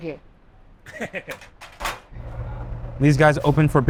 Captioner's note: chef laughing